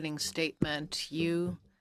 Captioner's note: speaking French